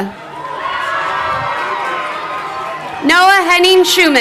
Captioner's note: crowd cheering